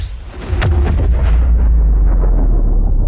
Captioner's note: dramatic sound